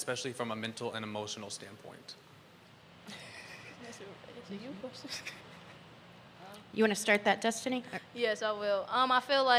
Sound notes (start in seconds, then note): 5.0 chuckling